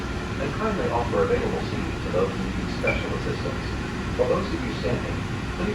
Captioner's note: automated Announcement